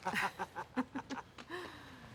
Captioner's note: laughter